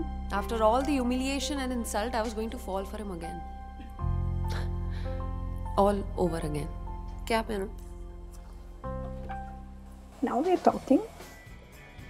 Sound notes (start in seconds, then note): 4.3 scoffs